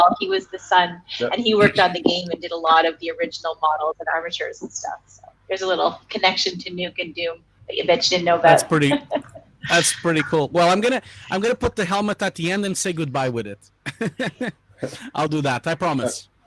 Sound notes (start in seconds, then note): 13.8 laughing